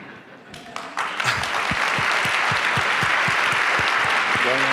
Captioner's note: applause